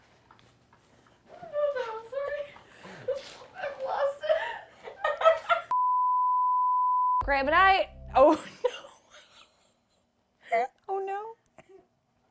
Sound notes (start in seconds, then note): 5.7 standby beeps; 9.7 laughs